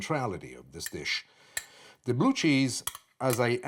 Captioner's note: glass clinking